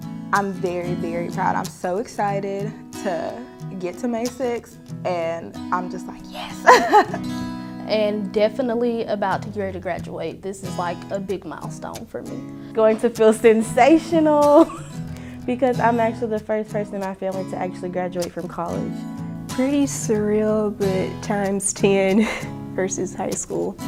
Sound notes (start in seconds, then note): 6.3 laughs